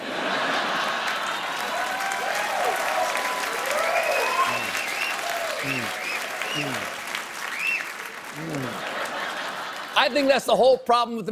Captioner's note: cheers and applause; laughter